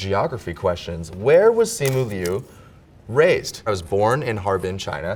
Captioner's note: paper rips